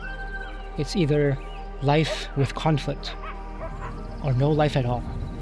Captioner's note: animal sounds